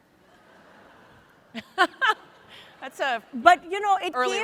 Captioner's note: audience laughs